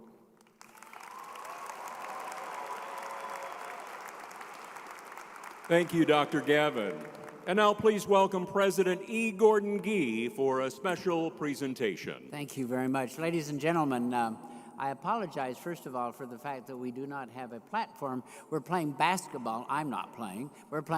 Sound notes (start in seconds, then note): 0.4 crowd applauding; 0.6 crowd cheering